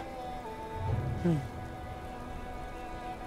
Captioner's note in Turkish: Gülüyor